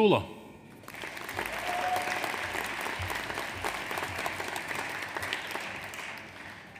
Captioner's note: audience applauds; audience cheers